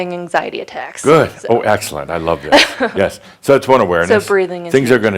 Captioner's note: she chuckles